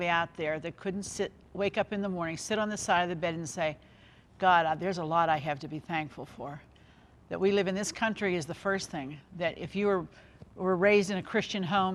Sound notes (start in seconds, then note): none